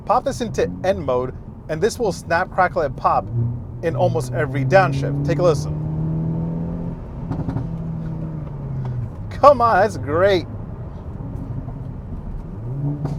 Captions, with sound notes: pop this into N mode and this will snap crackle and pop in almost every downshift, take a listen. (engine revving) Come on, that's great.